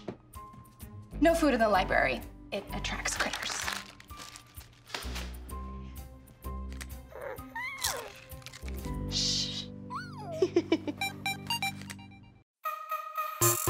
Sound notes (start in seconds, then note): 7.0 Rufus squeals; 10.6 theme music plays